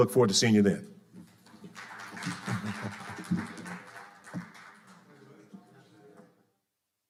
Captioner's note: audience applauding